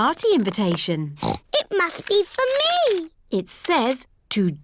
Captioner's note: snorts